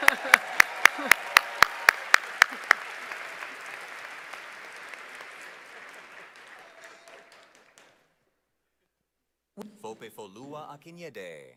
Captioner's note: cheers and applause